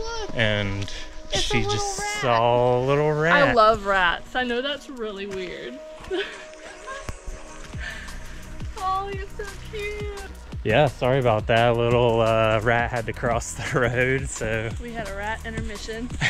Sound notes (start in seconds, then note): 6.0 chuckling; 16.0 laughs